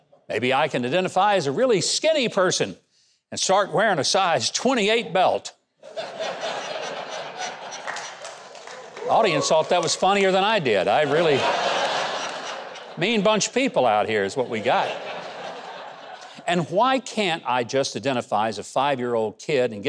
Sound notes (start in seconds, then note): 5.9 crowd laughing